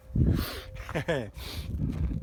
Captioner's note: laughs